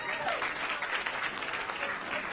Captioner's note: applause